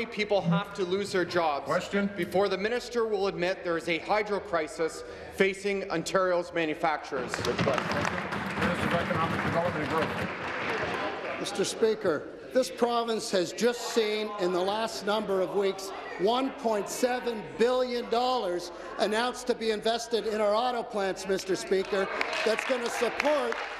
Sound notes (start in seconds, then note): 11.9 applause